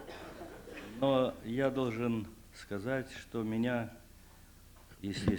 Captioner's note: non-english speech